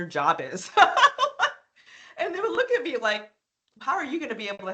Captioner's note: laughing